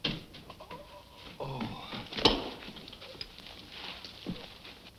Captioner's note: Phantom groans